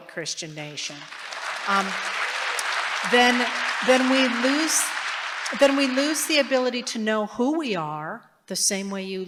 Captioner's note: applause